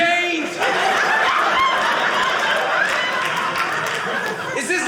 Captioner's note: audience laughing